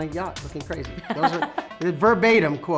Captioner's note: laughs